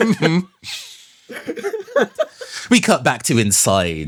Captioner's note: small Laughs